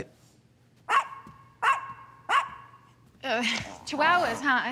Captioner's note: dogs barking